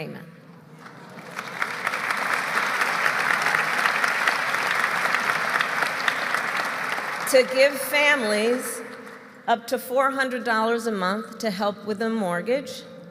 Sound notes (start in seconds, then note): 0.7 applause